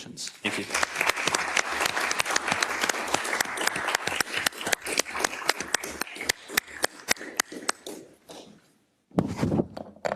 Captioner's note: applause